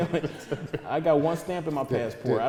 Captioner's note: laughing